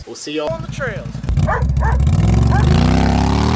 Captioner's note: happy motor noises